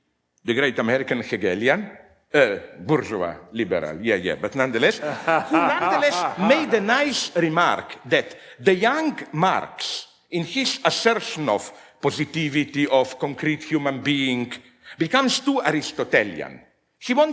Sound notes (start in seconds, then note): 4.9 they laugh